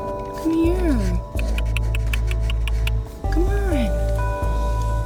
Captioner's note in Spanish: Clics de lengua